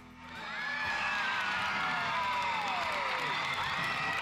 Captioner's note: audience cheering